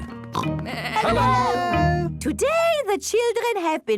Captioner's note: parents calling out